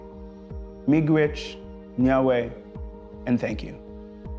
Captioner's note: speaks in foreign language